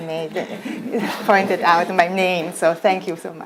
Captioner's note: audience laughs